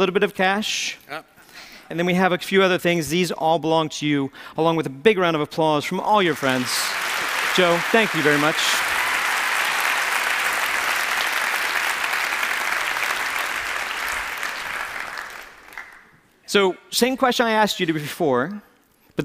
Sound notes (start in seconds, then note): 7.2 applause; 9.5 applause; 14.3 applause ends